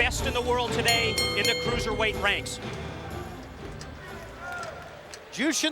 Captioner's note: bell ringing